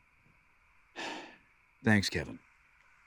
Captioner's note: Dev sighs